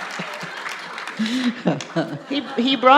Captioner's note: laughter